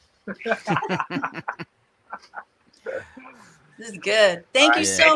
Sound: laughing

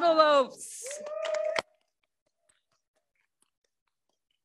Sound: crowd cheers

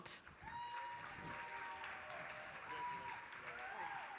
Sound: applause

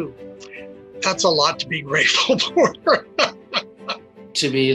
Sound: laughs

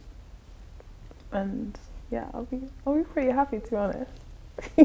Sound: laughs

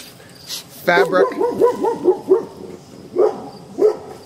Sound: dog barking

